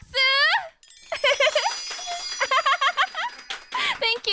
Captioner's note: clap clap clap